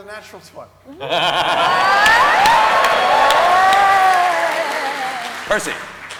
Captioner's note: cheering